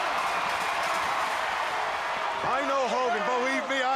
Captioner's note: crowd cheering